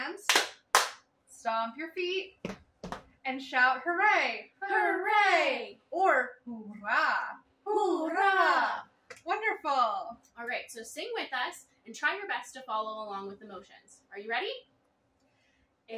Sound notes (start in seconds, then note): 0.2 clap; 2.8 stomp